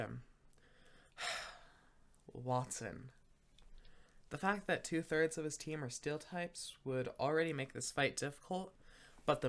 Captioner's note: sigh